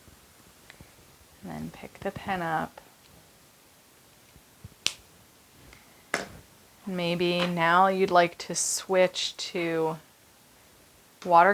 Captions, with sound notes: and then pick the pen up. (cap clicking) Maybe now, you'd like to switch to watercolor,